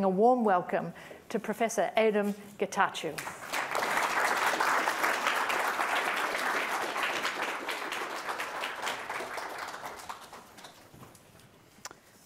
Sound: applause

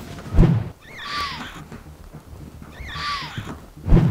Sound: screeching

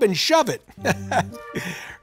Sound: chuckles

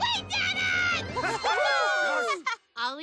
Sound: all cheering

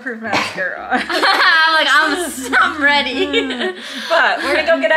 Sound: laughs

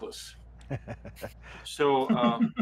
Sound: everyone laughs

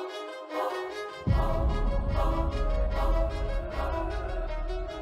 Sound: echo booms; intriguing orchestral music continues

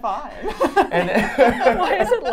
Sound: all laughing

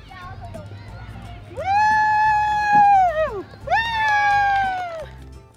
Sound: cheering as she goes down the slide

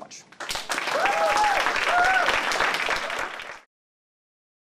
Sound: applause

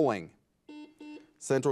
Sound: buzzer buzzes

